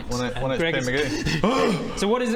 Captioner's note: painful gasp